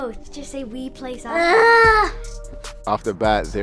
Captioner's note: groans